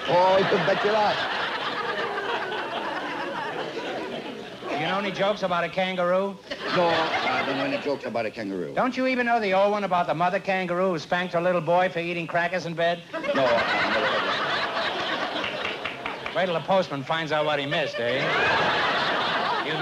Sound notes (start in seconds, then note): 13.1 laughter